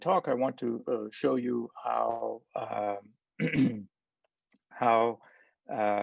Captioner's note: clears throat